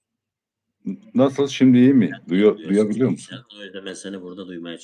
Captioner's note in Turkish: boğazını temizler